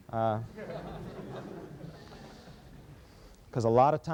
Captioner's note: laughter